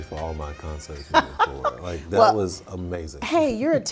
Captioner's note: laughing